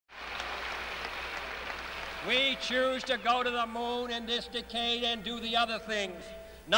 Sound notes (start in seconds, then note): 0.1 audience applauds